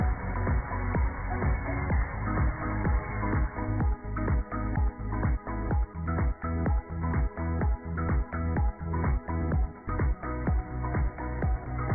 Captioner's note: cheers and applause